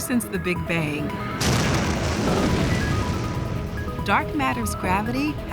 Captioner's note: explosion